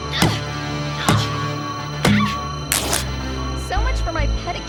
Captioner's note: grunting